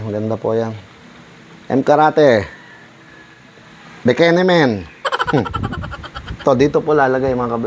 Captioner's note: laugh